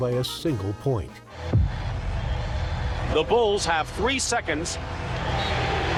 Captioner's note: crowd cheering